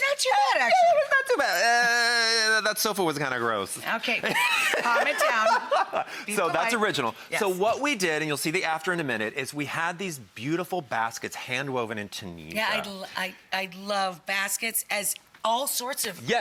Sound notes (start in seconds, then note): 2.0 groaning; 4.3 laughing